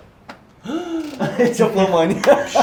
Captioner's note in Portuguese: interjeição de espanto